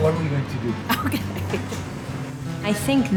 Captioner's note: laugh